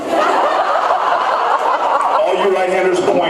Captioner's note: laughs